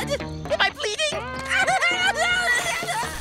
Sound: screaming

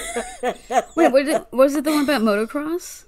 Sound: laughing

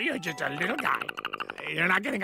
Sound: Perry chatters in an offended way

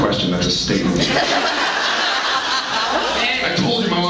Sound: laughs

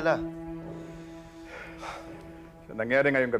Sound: both sigh

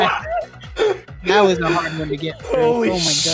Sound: laughter

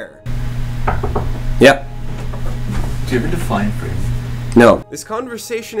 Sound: knocking

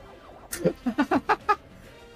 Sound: laughs again

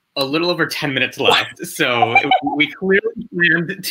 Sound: all laugh

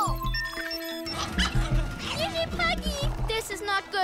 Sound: yapping

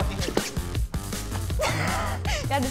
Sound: laughing

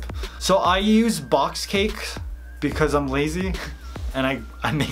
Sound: laughing

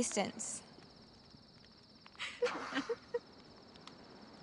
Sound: laughter

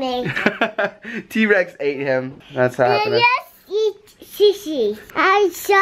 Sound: laughs

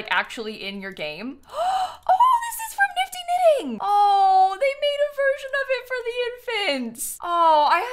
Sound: gasps

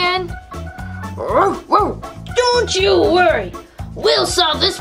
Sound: dog barking

